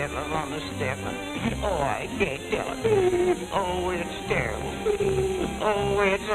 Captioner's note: sob